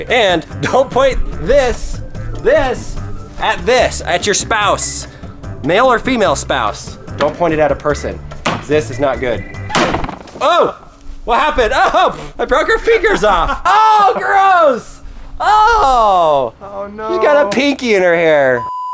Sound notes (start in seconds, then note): 9.5 banging; 13.5 laughing; 18.5 beeping